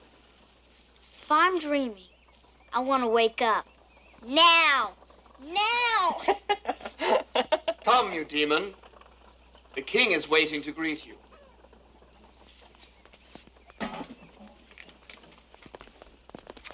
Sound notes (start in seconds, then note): 5.7 laughs